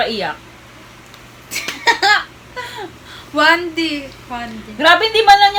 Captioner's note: laughs